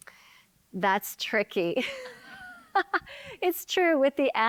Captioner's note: laughing